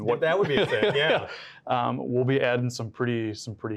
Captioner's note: both laugh